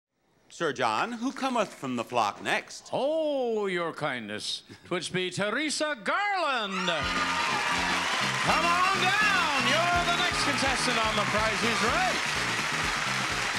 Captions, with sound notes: Sir John, who cometh from the flock next? Oh your kindness. It would be Theresa Garland. (audience applauding) (show music playing) Come on down! You're the next contestant on the Price is Right.